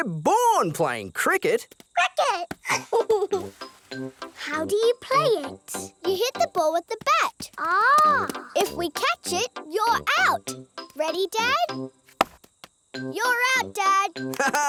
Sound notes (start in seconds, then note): 2.6 giggles